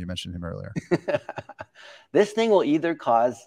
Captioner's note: laughs